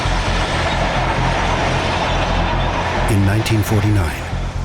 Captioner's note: tanks rolling